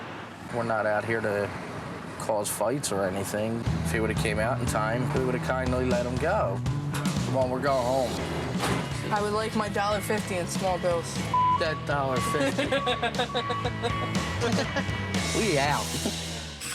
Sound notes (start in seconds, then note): 12.3 laughs